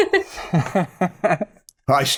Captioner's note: laughter